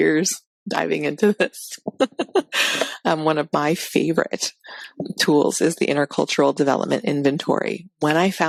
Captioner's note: laughs